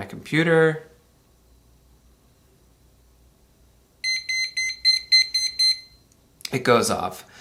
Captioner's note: alarm beeping